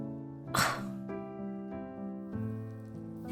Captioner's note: ROSE scoffs